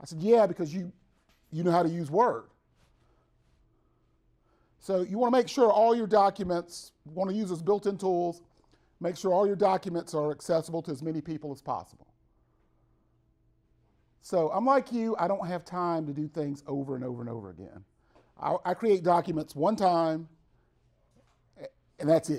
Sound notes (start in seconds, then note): 3.6 silance; 12.5 brief Silence